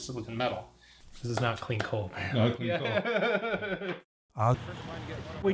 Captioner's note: laughing